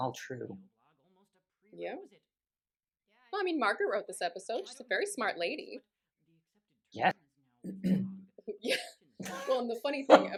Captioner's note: coughs, then laughs